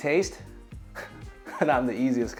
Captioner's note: chuckles